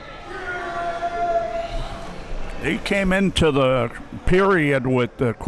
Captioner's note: man shouting